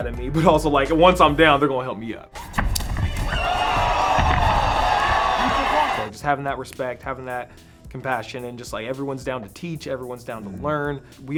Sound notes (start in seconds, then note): 2.4 punch and floor thudding; 2.4 audience cheering